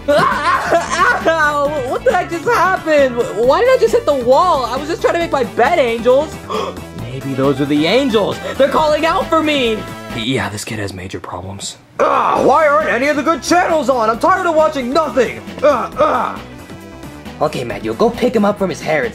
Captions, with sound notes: (Junior screaming and groaning) - What the heck just happened? Why did I just hit the wall? I was just trying to make my bed angels. (Junior gasping) Maybe those are the angels. They're calling out for me. - Yeah, this kid has major problems. - Ah, why aren't any of the good channels on? I'm tired of watching nothing. (grunting) (upbeat music continues) - Okay Mario, go pick him up from his hair